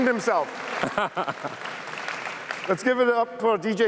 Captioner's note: laughs